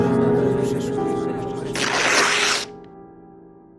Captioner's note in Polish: trzask przedartej kartki